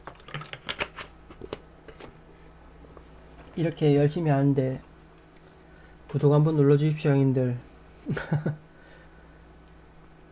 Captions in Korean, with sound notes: 이렇게 열심히 하는데 구독 눌러주십시오 형님들 (웃음)